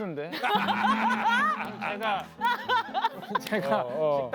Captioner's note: cracking up